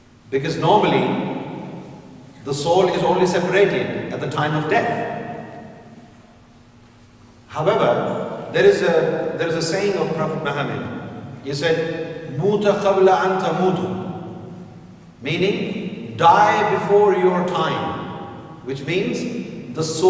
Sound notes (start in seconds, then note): 13.1 arabic